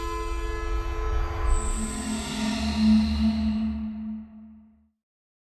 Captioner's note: whoosh, music fades